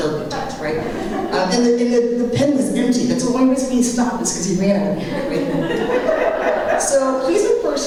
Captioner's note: laughter